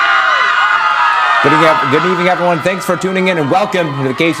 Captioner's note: cheers